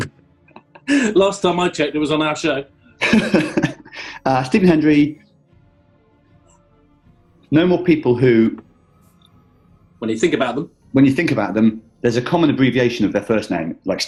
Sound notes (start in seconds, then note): 0.3 laughing